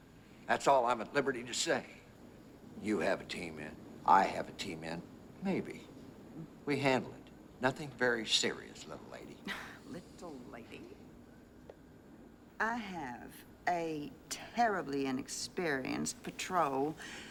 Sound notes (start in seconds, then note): 9.4 scoffs